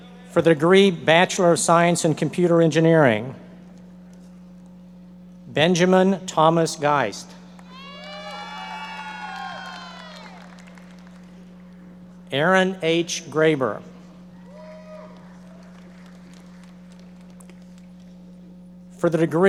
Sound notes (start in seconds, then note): 7.6 audience members cheering and applauding; 15.0 audience members applauding